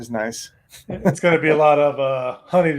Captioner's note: laughing